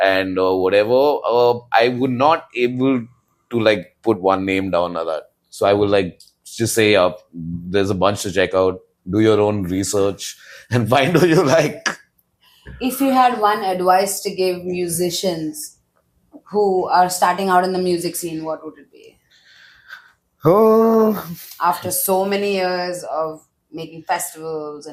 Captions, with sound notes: and, uh, whatever. Uh, I would not able to, like, put one name down or that. So I would, like, just say, up, there's a bunch to check out. Do your own research -[laughs] and find who you like. -If you had one advice to give musicians who are starting out in the music scene, what would it be? Uh -... -After so many years of making festivals